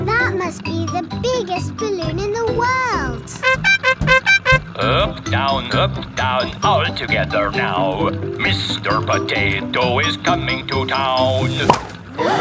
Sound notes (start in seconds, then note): 2.9 horn beeping